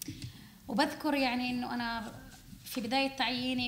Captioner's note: speaking arabic